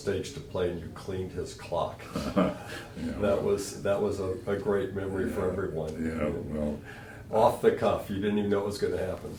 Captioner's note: laughter